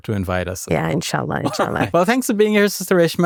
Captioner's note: chuckles